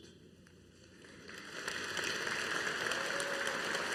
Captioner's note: audience applauding